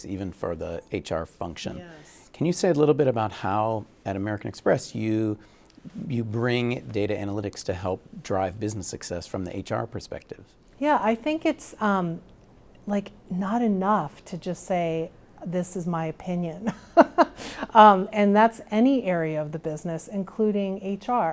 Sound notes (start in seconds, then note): 17.1 laughing